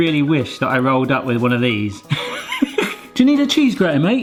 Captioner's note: laughs